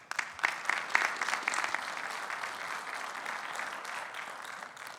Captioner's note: attendees applauding